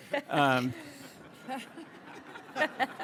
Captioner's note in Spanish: Risas